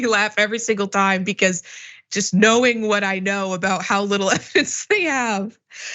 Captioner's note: laugh